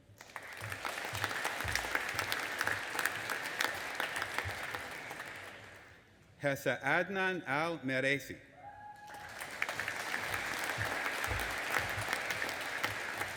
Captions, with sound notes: (AUDIENCE APPLAUDING) Hessa Adnan AlMeraisi. (AUDIENCE APPLAUDING AND CHEERING)